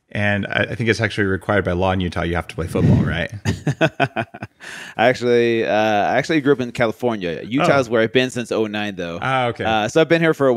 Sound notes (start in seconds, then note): 2.6 laughs